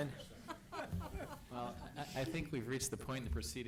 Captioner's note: laughter